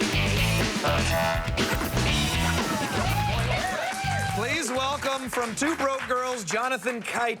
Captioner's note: applause